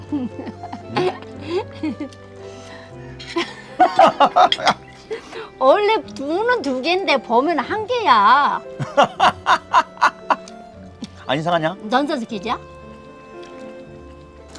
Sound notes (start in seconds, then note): 0.0 laughing; 3.8 both laughing; 8.0 laughing